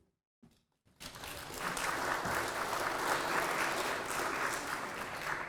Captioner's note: applause